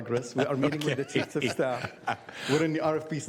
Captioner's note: laughter